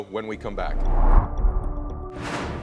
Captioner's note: suspenseful music; graphic whooshing